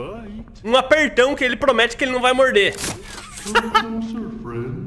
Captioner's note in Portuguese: risos